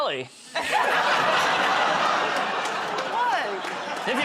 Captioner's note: laughter